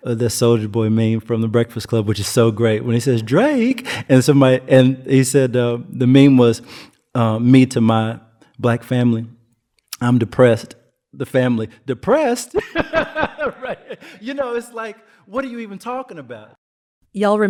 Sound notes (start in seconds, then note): 12.5 laughs